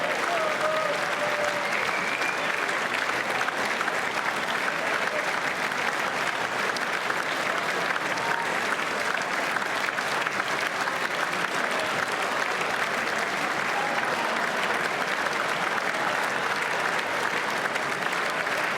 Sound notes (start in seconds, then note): 0.0 applause; 5.7 applause; 5.7 cheers